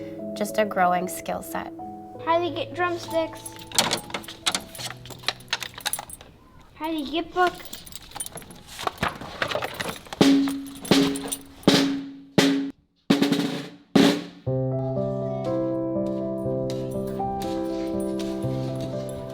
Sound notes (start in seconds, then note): 10.1 tapping; 14.4 gentle music